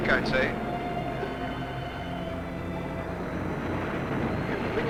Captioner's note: waves crashing